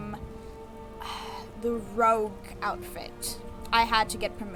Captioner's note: exhale